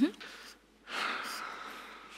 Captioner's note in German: Tiefes Ausatmen